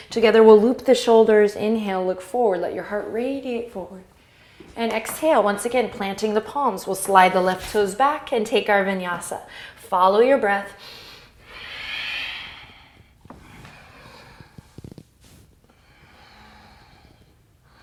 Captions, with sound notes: together we'll loop the shoulders, inhale, look forward, let your heart radiate forward. And exhale, once again planting the palms, we'll slide the left toes back and take our Vinyāsa. Follow your breath (deep breath).